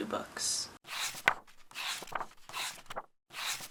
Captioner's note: pages turning